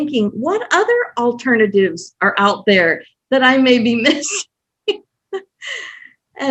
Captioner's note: laughs